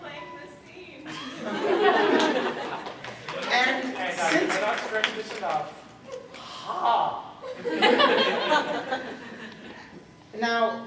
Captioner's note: laughter, crosschatter